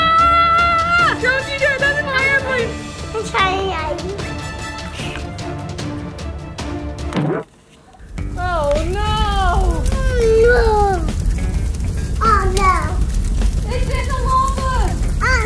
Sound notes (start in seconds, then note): 0.0 mom exclaims; 7.1 bouncing; 13.2 lava crackling